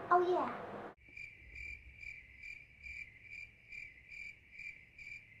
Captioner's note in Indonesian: krik, krik, krik